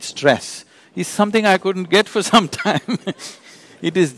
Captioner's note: laughs